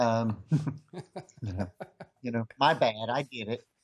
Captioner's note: laughs